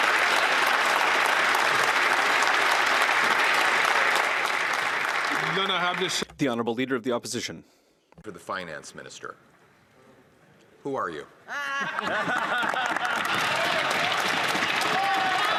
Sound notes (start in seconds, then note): 0.0 some Applause; 10.4 speaking French